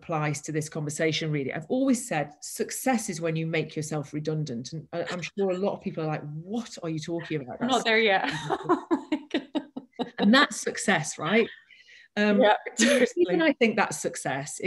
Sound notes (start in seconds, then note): 8.2 laughter